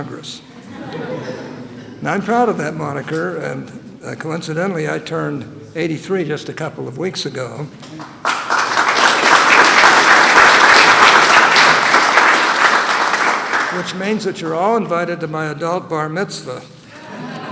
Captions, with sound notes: And I'm proud of that moniker and coincidentally I turned 83 just a couple of weeks ago -- (Applause.) -- which means that you're all invited to my adult Bar Mitzvah.